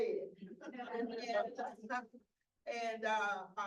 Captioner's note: audience laughs